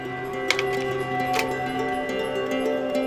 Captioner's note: projector clicks